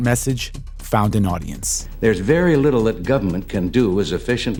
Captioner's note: soundbite of archived recording